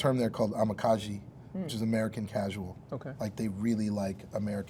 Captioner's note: speaking in Japanese